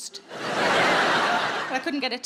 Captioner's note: crowd laughing